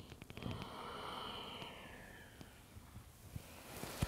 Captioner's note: deep breathing